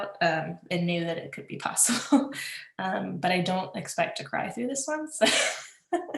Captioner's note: laughs